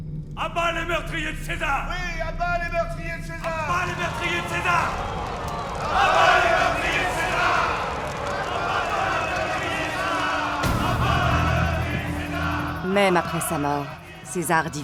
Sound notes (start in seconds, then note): 5.4 crowd jeering; 5.4 crowd yelling; 10.6 ominous music